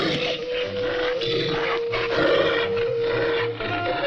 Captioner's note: animal noises